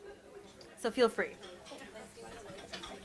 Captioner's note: people chatter and cutlery clinks